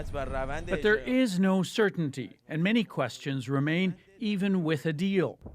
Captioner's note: speaking alternate language